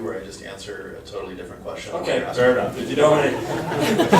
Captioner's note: laughter